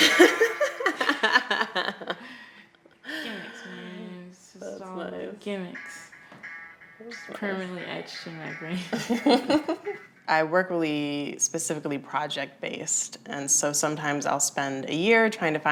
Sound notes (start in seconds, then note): 0.0 laughing; 8.7 laughter